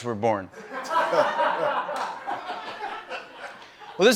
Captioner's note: laughter